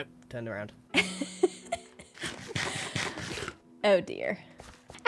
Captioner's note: laughs